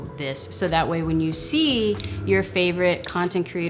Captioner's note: mouse clicking